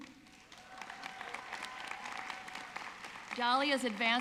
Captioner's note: audience clapping